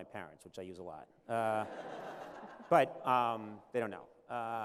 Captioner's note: laughter